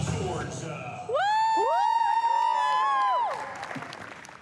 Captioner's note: cheering, clapping